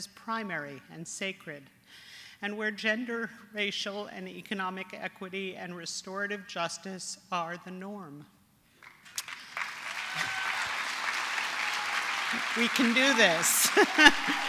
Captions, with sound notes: as primary and sacred, and where gender, racial, and economic equity, and restorative justice are the norm. [APPLAUSE] We can do this.